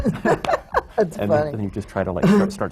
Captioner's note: laughs